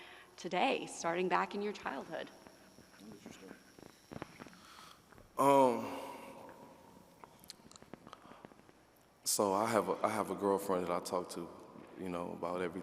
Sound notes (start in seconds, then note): none